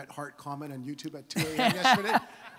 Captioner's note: Gary laughs